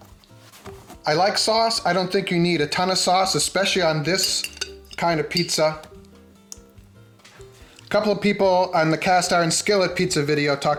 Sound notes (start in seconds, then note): 4.2 spoon tapping